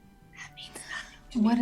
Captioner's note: whispering